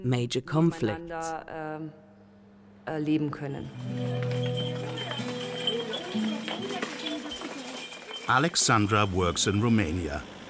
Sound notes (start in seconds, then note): 0.3 speaking in foreign language; 3.6 bells dinging; 3.6 hooves clopping